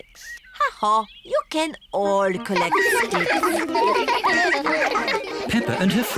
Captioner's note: all giggling